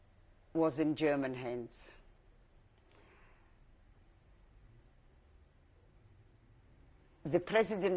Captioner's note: pauses for 6 seconds